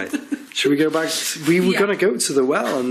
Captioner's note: laughing